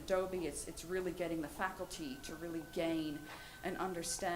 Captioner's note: none